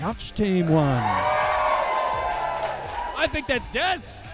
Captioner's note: audience cheering